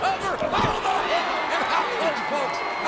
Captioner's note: audience cheering